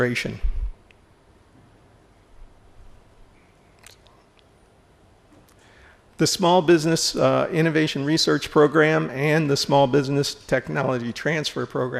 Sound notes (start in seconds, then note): 1.2 silence